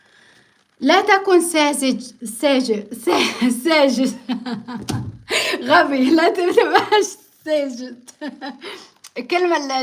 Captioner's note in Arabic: ضحك